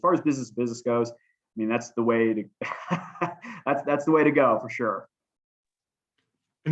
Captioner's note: laughter